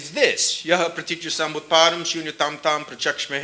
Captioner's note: speaking sanskrit